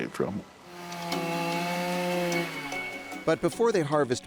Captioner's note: chainsaw whirring